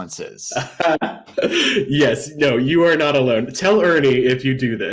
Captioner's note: laughter